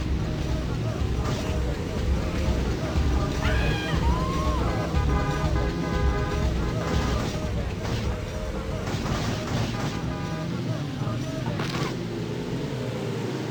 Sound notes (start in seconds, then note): 3.1 people yelling; 3.9 car horns blaring